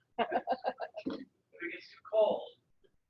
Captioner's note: laughing